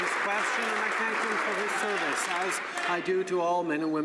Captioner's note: some Applause